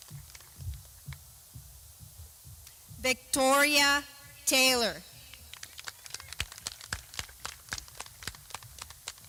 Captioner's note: clapping